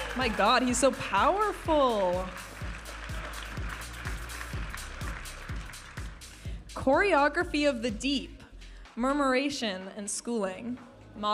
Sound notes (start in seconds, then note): 2.4 audience applauding and cheering; 5.3 upbeat music